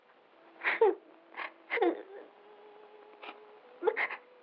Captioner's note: crying